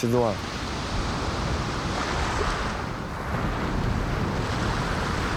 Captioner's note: waves crashing